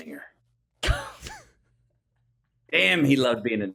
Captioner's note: laughs